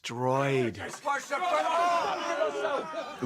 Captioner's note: all shouting